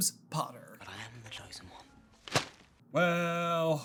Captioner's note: thwap!